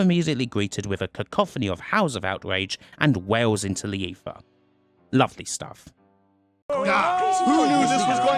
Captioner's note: riotous shouting